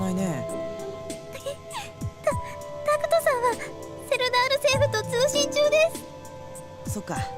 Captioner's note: sniffle